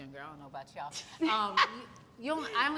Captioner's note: both laugh